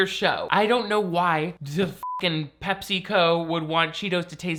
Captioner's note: beep